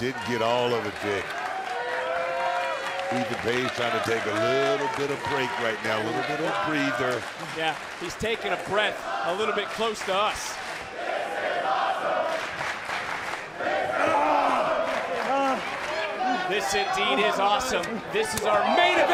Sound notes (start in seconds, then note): 12.2 crowd chants "this is awesome"